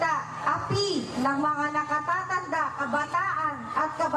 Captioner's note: lady speaking in foreign language